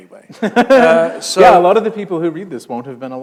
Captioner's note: chuckle